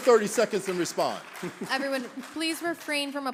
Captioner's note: applause; laughter